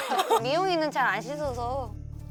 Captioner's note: tears